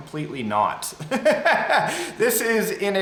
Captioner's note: laughs